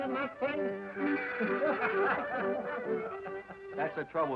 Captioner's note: men laughing